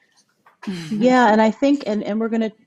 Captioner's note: laughs